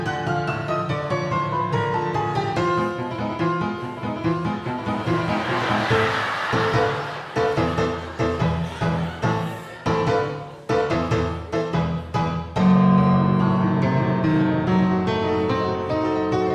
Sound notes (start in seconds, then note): 3.5 audience laughing